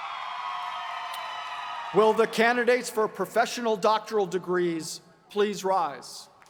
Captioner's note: cheers and applause